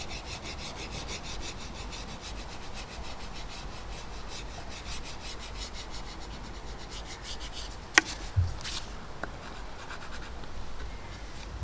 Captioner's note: sketching sounds